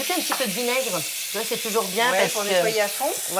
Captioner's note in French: none